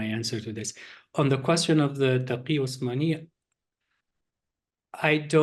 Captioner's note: non english speech